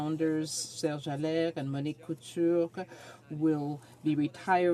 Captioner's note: speaking French